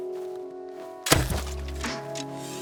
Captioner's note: thunk